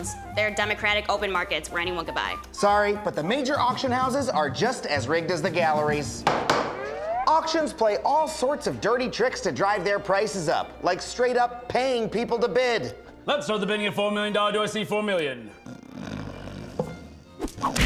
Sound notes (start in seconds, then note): 6.2 pounds gavel; 15.6 snoring